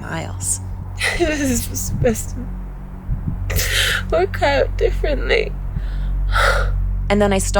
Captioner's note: crying